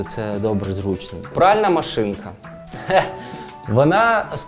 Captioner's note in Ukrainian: сміється